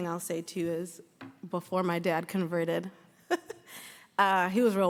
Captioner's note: laughs